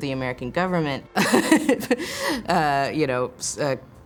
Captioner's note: laughs